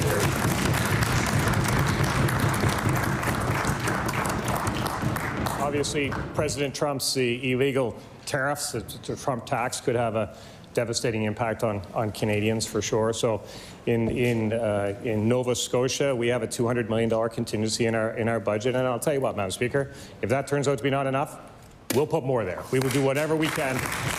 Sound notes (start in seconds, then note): 0.0 applause; 4.6 cheering and Applause